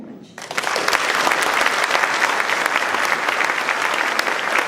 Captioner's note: applause